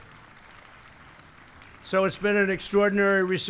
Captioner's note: applause